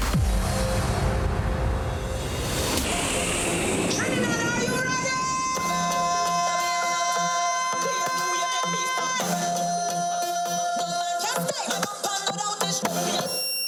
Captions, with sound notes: (dramatic instrumental music) (airplane roaring) (upbeat Trinidadian music) - Trinidad, are you ready? Let's play!